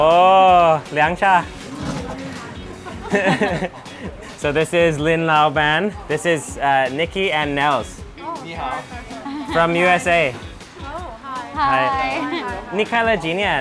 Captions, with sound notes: (laughs) So this is Lin laoban. This is Nikki and Nels (greetings in foreign language) from USA. - Oh, hi.